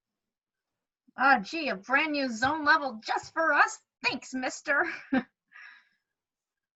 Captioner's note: laughs